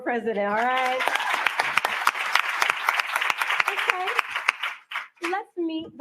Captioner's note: cheering and applause